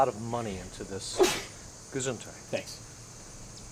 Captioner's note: man sneezes